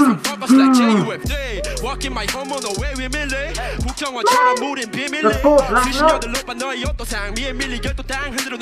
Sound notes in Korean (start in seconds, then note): 2.2 허허 ㅋㅋㅋㅋ